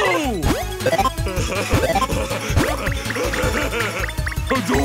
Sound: laughing

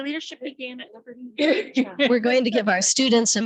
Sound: speaker 6 speaks faintly

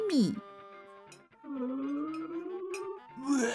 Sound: strange blubbering sound

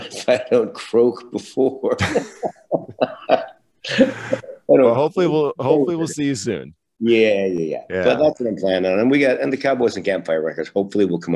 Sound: laughs

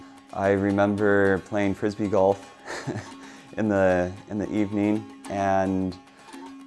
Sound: laugh

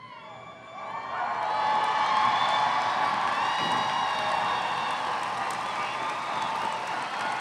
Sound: audience cheering; audience applauding

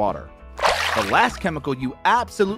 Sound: water splashes

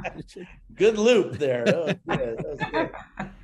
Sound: laughs

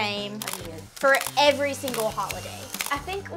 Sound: camera clicks

